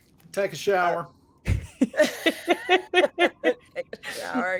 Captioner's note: cast members laughing